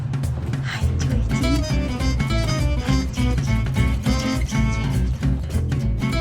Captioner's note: upbeat music; loving whispers; upbeat music